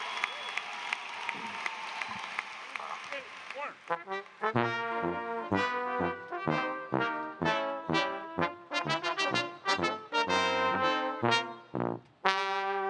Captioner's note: cheers and applause